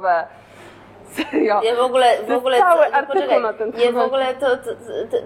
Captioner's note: stutters